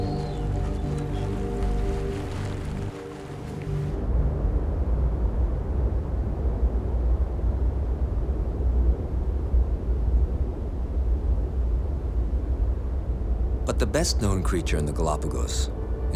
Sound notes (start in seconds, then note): 3.9 wind howling